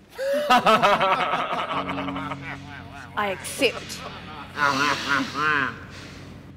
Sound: laughter

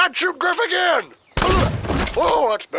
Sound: gunshots

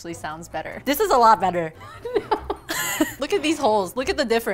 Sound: laughing

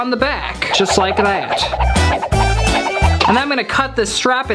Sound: fast moving sound effect

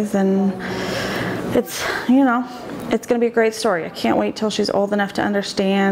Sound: none

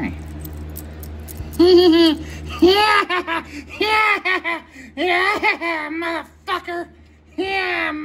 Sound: Caprice laughs and giggles

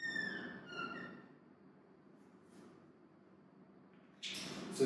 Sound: squeaking sound

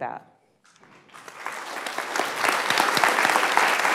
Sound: applause

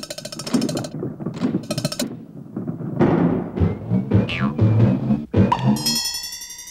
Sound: rattling; rumbling; thumping

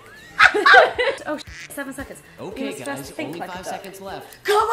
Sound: all laughing; quack

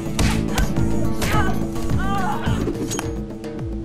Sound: punches smacking; women grunting; knife swishing

